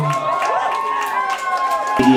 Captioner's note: crowd cheering